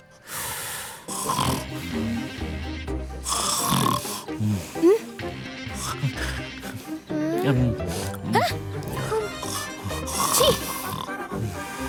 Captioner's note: snoring